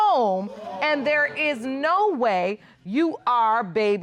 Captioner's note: audience exclaiming